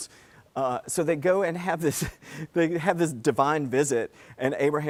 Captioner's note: laugh